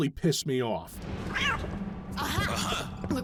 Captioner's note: cat noise